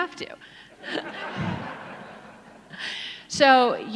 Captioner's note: audience laughs